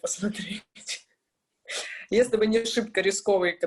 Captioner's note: laughs